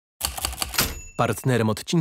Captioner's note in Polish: dźwięk maszyny do pisania